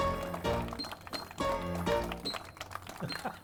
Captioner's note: piano playing; audience applauding; chuckle